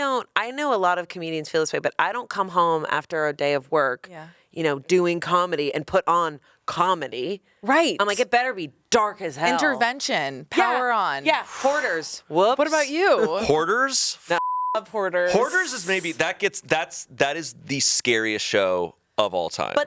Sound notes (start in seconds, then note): 14.3 beep